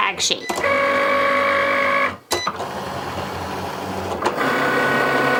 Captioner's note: Cricut machine whirring